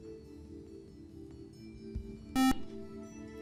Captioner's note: buzzer